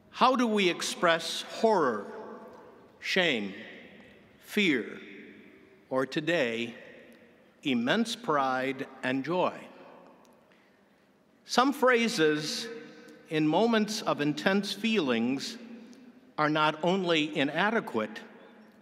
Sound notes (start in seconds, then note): none